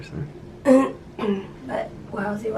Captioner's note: clears throat